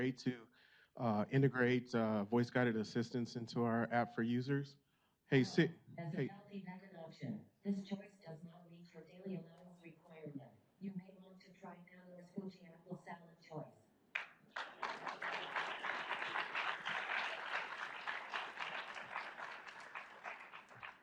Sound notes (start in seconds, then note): 5.8 robotic Voice; 6.7 faint voice; 14.5 audience applauds